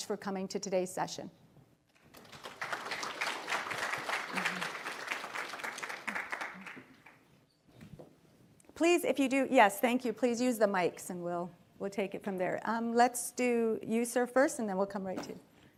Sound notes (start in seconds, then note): 4.1 applause